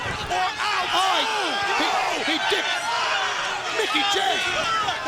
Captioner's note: overlapping chatter